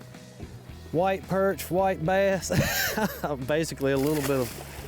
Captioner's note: laughing